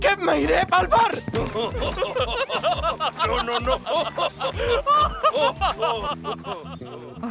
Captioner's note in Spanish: Los Banzai se ríen